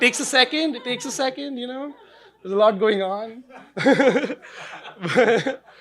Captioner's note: laughing